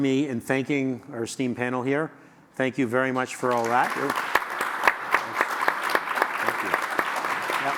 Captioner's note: audience Applause